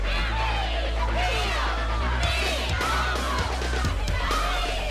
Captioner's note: cheering and shouting; excited shouts and fighting grunts